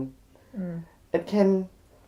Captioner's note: sympathetic noise